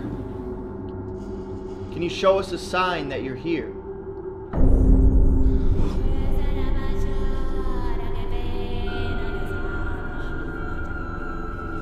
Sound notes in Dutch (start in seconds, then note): 4.9 gesnak naar adem; 5.9 mystiek gezang